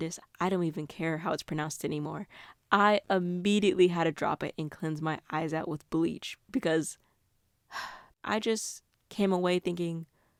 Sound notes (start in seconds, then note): 7.7 sigh